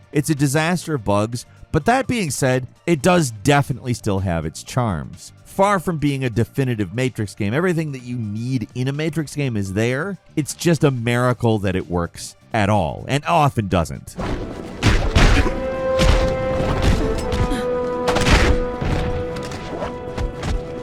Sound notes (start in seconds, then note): 14.1 tense dramatic music; 14.2 blows thudding